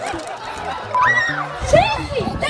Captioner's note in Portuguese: gritos